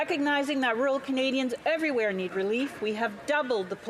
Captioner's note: speaking French